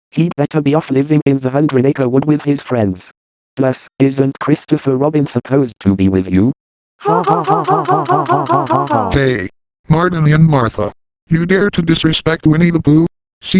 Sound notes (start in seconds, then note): 7.0 Martin and Martha laughing